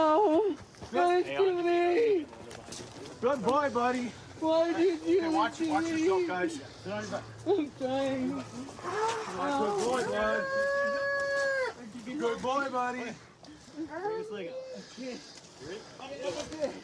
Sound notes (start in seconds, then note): 10.4 wails